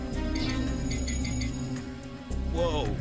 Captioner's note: beeping